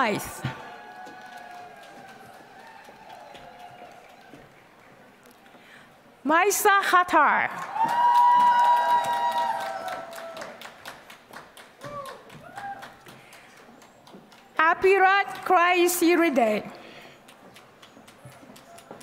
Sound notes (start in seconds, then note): 0.5 applause; 7.4 applause; 17.4 applause